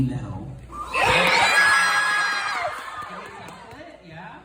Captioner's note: audience cheers